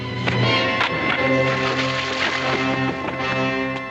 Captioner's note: suspenseful music; water splashes; suspenseful music